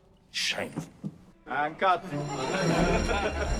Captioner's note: all laughing